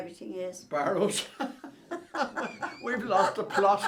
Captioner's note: laughs